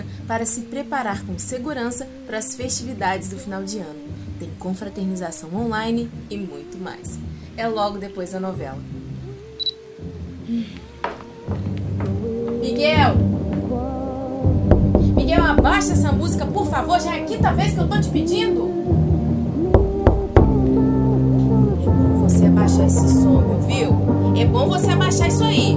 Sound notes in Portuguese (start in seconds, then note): 0.0 Voz descontraída; 14.6 batendo na porta; 19.7 Jéssica bate na porta novamente